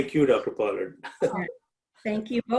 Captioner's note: laughs